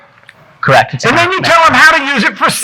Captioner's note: speaks faintly